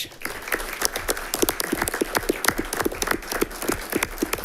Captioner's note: all clapping